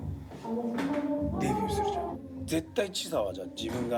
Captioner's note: speaking in foreign language